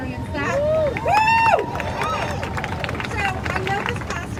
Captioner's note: crowd cheering